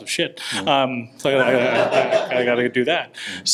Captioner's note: audience laughs